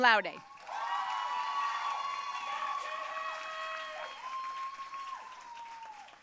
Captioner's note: audience cheering and applauding